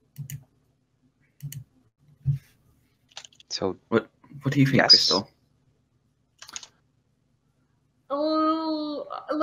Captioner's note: typing